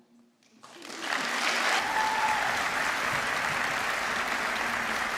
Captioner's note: applause